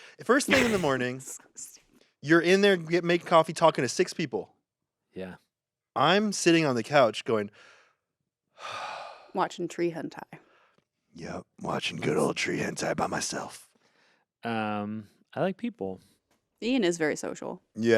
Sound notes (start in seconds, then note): 8.6 sighs